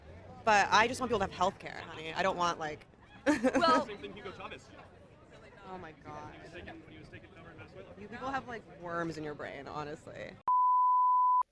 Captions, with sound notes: But, I just want people to have healthcare, honey. I don’t want, like - (laughs.) Well - (voice off camera) That’s the same thing Hugo Chavez said. Oh my god. You people have, like, worms in your brains, honestly. (Beep.)